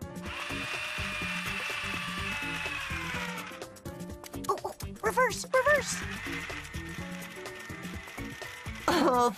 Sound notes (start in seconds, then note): 5.5 loud whirr of the car's electric motor